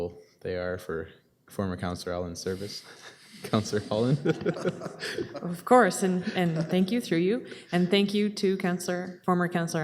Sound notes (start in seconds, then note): 3.0 group chuckling; 6.0 chuckling